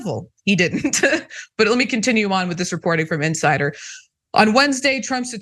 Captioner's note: laugh